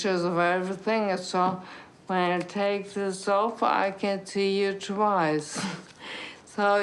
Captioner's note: chuckles